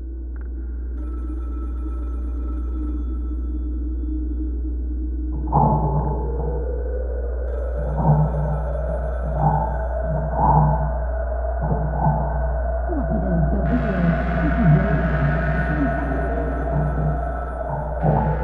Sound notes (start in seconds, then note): 0.8 phone ringing